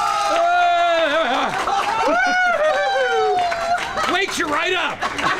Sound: cheering

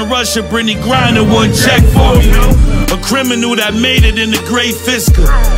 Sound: vroom

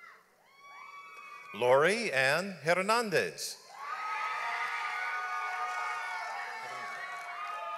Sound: audience applauds

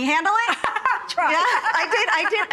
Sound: laughing

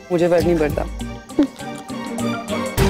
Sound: Nicky laughs

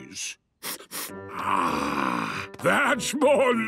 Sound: sniffs

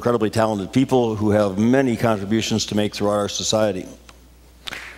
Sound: applause

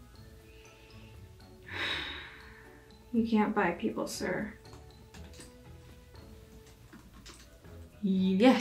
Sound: deep sigh

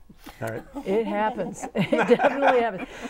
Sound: laughing

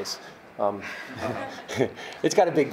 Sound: chuckling

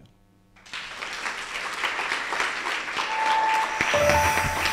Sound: applause

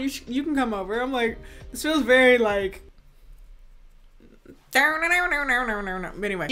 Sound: imitates redneck banjo music

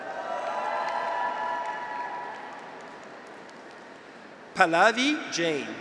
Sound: graduates cheer; audience applauds

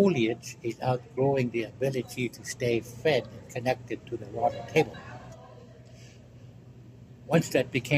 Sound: background laughter

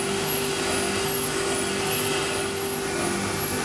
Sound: machine noise

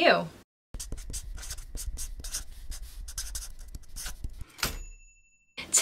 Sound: felt tip scribbling; ding!

